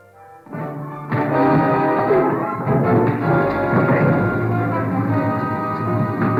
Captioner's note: grunts